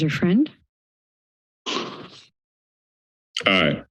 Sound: silence

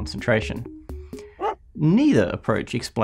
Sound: dog barking

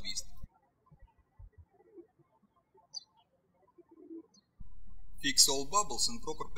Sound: birds chirping

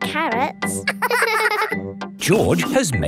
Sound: both laughing

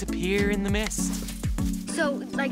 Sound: whacking

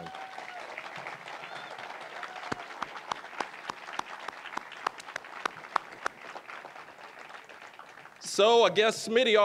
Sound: applause, cheering

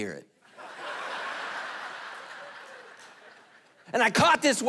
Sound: congregation laughing

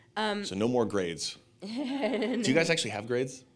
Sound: laughs

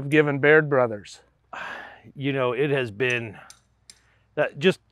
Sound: sighs

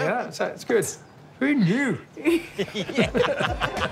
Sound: laughs

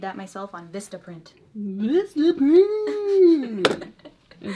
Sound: laughs

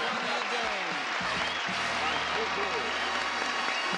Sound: applauding

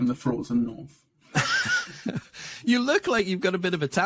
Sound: laughing

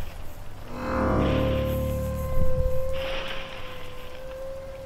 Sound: a long-drawn of piercing metallic shriek that slowly fades

